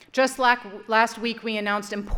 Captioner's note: none